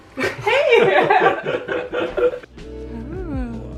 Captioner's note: both laughing